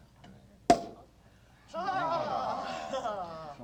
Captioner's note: cork pops; chatter